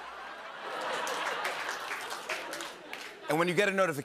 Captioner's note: laughter